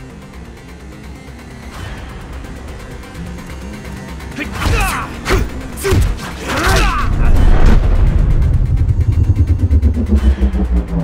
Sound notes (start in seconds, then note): 0.2 tense music plays; 4.2 Hwoarang groans; 4.2 Jin grunts